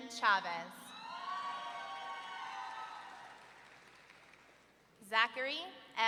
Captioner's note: audience cheering